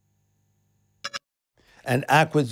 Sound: digital blip

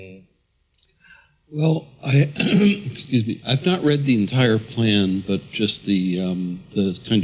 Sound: cough

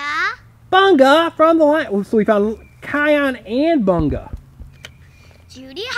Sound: voiceover

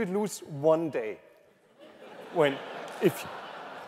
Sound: laughter

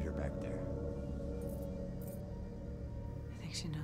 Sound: keys rattling

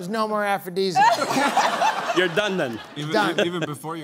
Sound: laughter

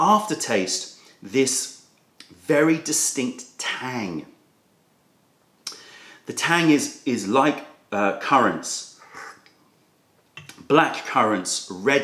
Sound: sips tea

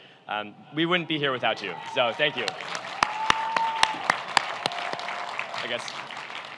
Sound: cheering

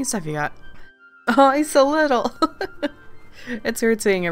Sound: laughs

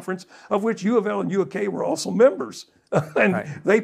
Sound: laughs

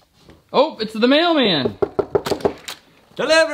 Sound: knocking

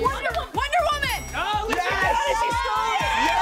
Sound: yelling

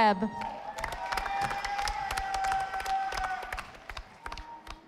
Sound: audience applauding

